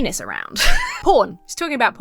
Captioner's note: laughs